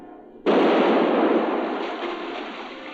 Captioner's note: cannon blasting